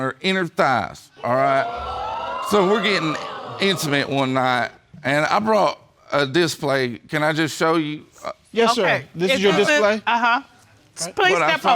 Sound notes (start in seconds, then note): 1.2 audience exclaiming